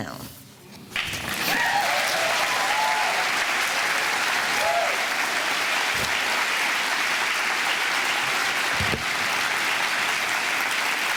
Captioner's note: audience applause